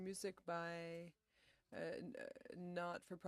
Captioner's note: speaking French